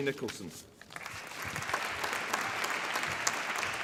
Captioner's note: applause